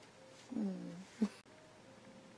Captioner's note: chuckles